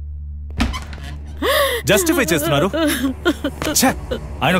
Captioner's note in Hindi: रोते हुए